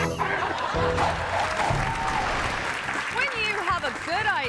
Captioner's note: friends laughing; audience laughing and clapping